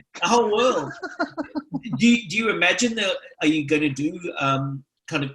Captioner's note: laughs